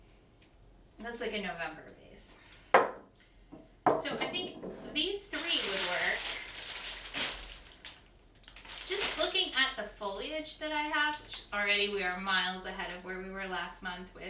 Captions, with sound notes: that's like a November piece. (Knock) So I think these three (crinkling) would work. Just looking at the foliage that I have. Already we are miles ahead of where, we were last month.